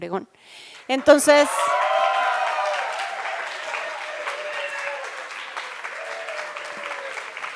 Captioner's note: applause